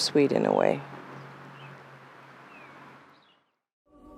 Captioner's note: birds singing